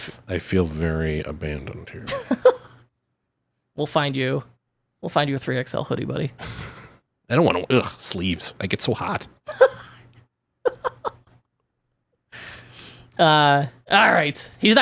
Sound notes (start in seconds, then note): 2.0 laughs; 10.6 laughs